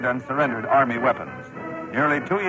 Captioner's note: archival news audio